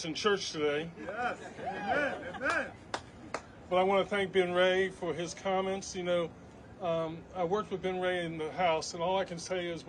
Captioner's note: cheers and applause